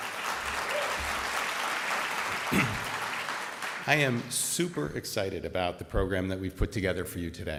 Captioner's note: applause